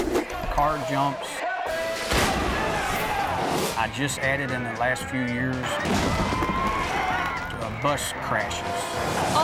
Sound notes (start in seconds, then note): 1.8 cars crunch; 6.0 buses crunch